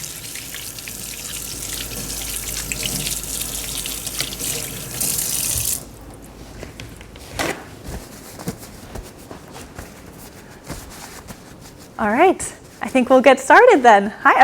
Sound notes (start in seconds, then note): 0.0 tap water whooshing